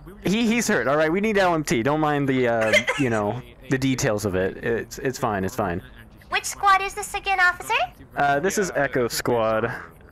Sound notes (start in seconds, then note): 2.5 laughs